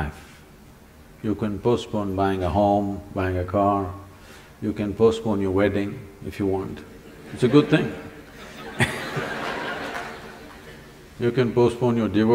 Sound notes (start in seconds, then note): 6.9 laughter